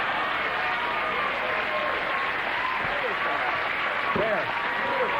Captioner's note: cheers and applause